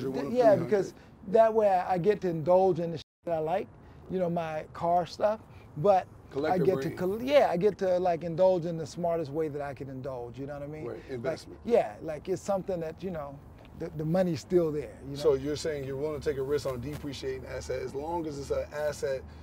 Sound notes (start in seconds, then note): none